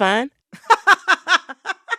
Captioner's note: laughter